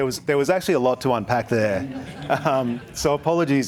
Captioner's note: audience chuckles